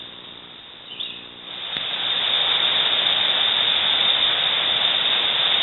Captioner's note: water rushing